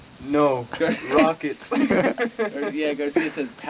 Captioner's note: soldiers laughing